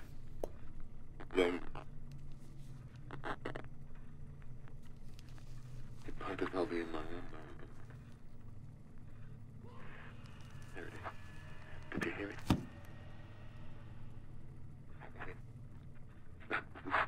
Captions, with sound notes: It might as well be in my own mind. [distant screaming] There it is. Did you hear it? That's it. That's the sound.